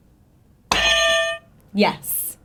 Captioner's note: buzzer sounds